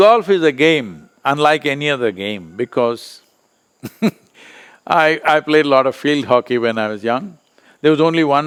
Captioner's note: laughs